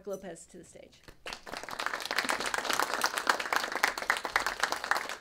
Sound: attendees applauding

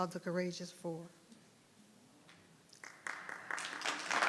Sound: audience clapping

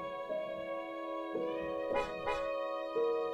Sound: car horn

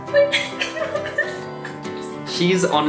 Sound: whimpers

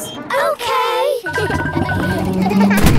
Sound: kids laughing

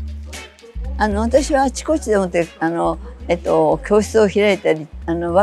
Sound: speaking foreign language

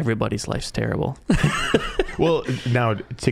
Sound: laughing

